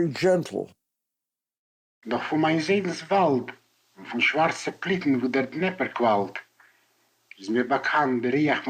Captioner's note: in Yiddish